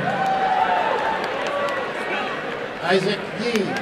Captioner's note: applause and cheering